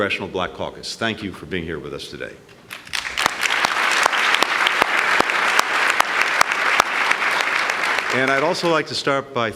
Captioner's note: applause